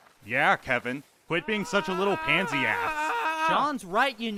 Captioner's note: aang screams